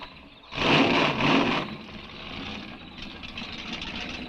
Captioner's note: engine cranks; engine revving